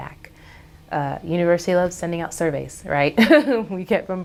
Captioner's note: laughs